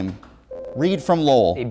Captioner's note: ringing